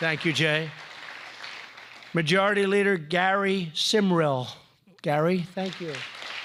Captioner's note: applause